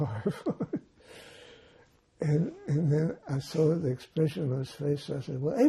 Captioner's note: laughing